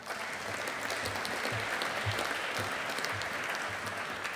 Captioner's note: audience applauding